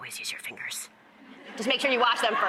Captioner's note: audience laughs